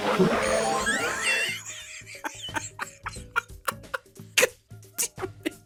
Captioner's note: wheezes